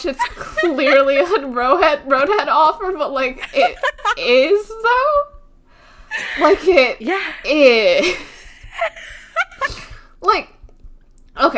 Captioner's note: laughing; laughing